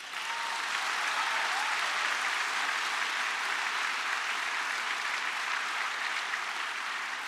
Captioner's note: cheering and applause